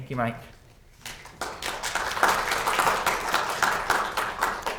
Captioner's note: students clapping